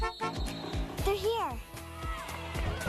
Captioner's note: Enclave honks